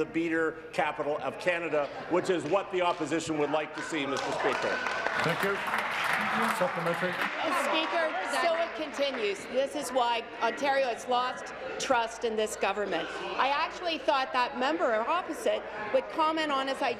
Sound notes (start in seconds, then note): 9.2 applause